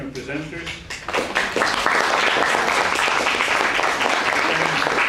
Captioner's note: audience applauds